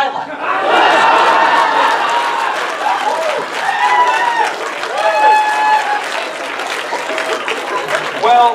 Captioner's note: audience laughter and cheers